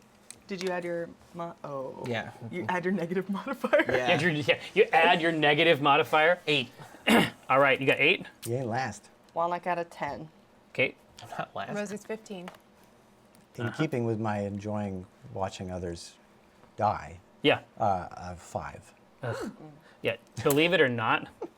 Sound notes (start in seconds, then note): 3.3 laughs